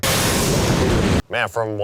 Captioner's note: wind whips